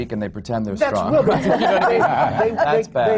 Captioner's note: laughter